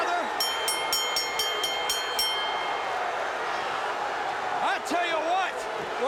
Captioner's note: bell ringing